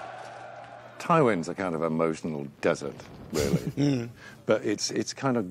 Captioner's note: laughs